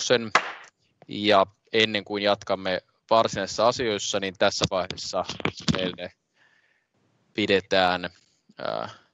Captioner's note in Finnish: nuijan kopautus